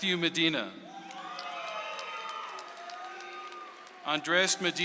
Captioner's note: audience applauds